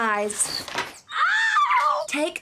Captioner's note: screams